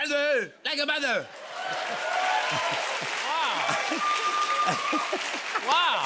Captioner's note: cheers and applause